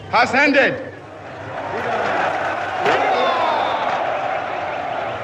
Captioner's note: people cheering